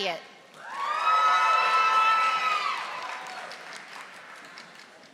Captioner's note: audience applauding